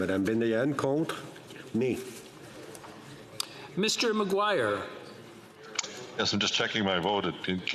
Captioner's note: speaking in French